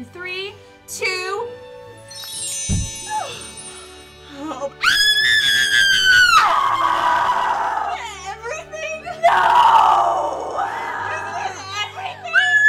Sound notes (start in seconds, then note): 2.0 jingle; 4.8 screaming; 12.1 screaming